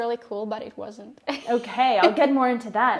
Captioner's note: laughing